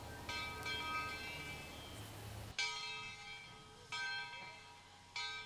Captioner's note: bell clanging